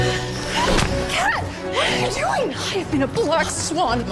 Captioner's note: gasps